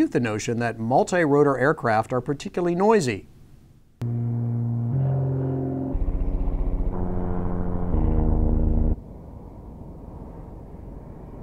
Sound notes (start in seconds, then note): 4.0 plane engine revving